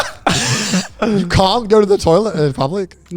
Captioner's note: laughter